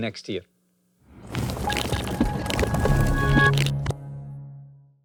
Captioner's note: transition sound effect